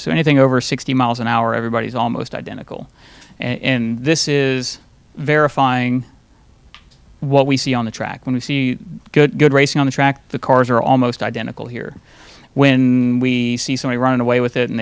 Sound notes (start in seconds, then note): none